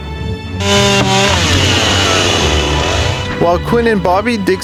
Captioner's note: chainsaw revving